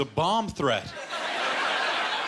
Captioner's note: laughter